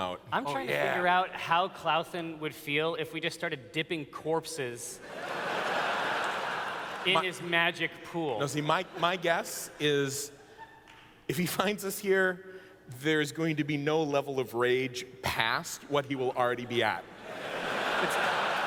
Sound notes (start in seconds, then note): 5.0 laughter; 16.7 laughter